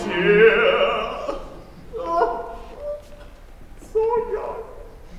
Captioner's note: he cries